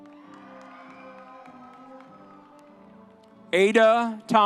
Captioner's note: audience cheering